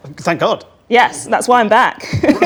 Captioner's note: laughs